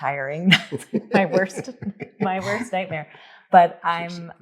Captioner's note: laughs